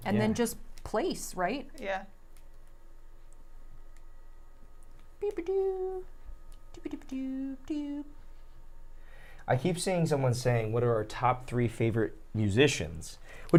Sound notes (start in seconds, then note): 5.2 humming